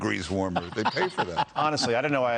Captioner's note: laughter